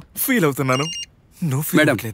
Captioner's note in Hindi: मशीन बीप करती है